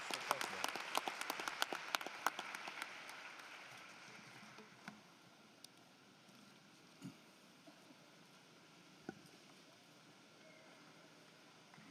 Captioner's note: applause